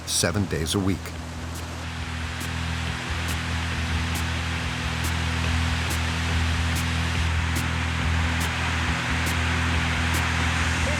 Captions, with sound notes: seven days a week. (dramatic music) (machines humming)